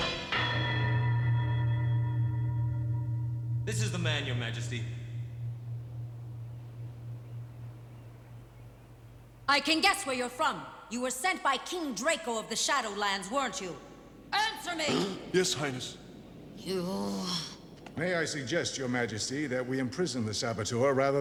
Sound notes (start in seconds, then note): 14.8 gasps